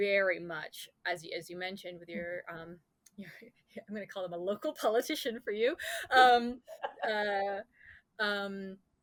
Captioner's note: laughs